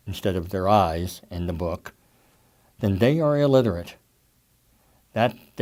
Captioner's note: none